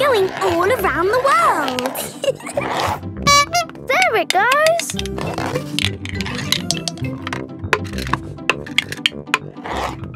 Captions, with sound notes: - It's going all around the world! (giggling) (honking) - There it goes!